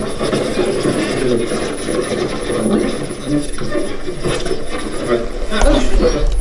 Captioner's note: static